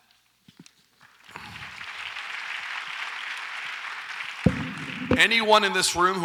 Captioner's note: audience applauds